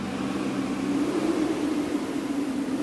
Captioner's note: sound of wind